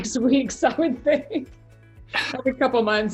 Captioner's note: laughs